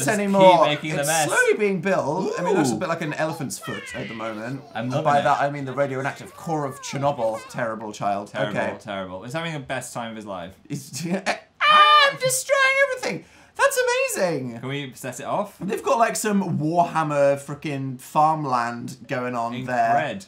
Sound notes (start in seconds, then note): 11.6 hightpitched